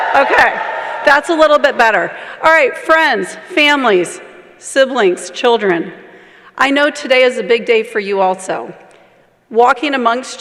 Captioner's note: cheers and applause